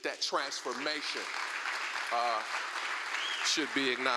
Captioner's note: applause